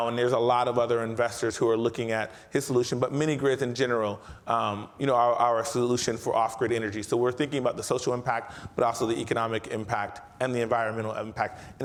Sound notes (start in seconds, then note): none